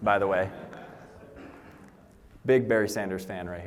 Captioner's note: laughter